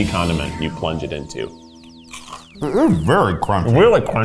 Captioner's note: crunches